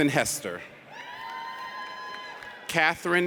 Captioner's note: audience cheers